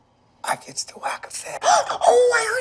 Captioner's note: whispers